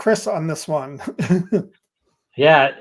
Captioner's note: laughing